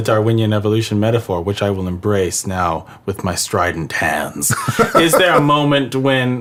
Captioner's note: laughs